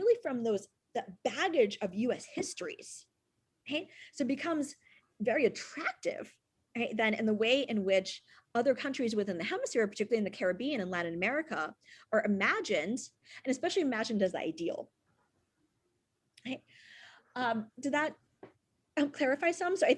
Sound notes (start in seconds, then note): none